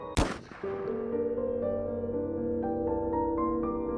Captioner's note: gun fires; piano music